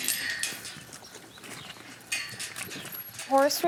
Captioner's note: metal gate bangs